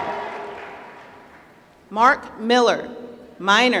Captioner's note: applause